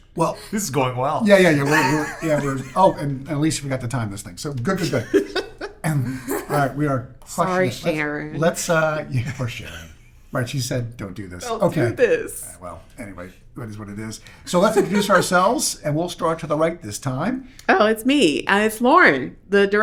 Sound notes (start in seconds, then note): 6.4 laughing